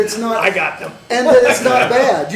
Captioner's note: laughter